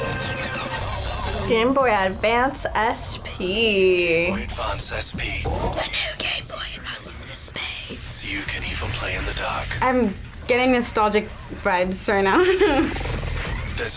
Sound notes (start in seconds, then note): 0.0 upbeat rock music; 5.8 whispers; 12.3 laughs